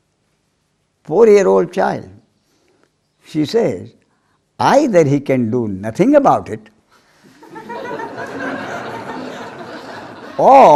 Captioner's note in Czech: smích